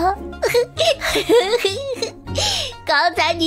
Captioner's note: chuckles